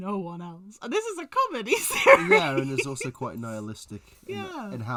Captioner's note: laughs